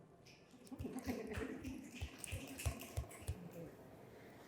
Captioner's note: audience clapping